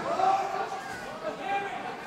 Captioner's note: crowd